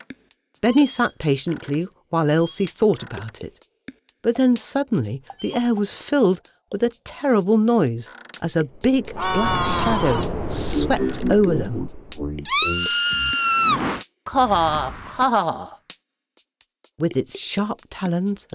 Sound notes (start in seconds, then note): 12.4 scream!